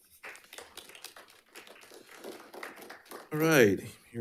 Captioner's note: attendees applauding